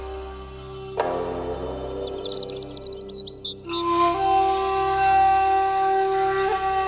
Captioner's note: birds chirping